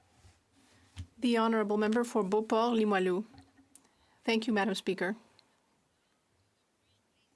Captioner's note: speaking French